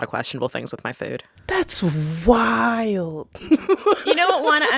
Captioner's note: laughter